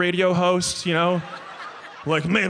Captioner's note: audience laughs